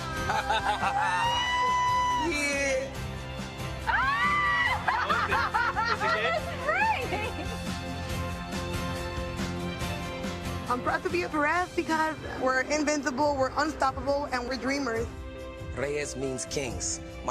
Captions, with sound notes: (people cheering) - Yeah. - Great. - I'm proud to be a Perez because we're invincible. We're unstoppable and we're dreamers. - Reyes means kings.